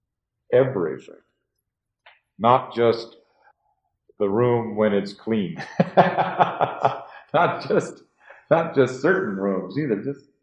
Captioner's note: laughs